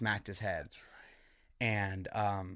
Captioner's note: whispers